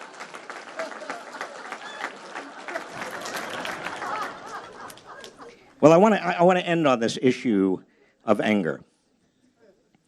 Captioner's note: applause